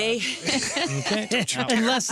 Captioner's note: group laughing